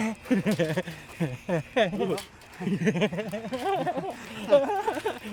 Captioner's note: laughing